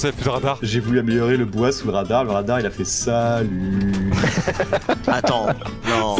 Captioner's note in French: rire